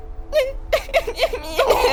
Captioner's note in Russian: плачет; плачут